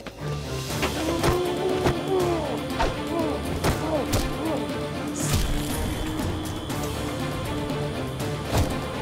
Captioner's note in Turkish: Dövüş sesleri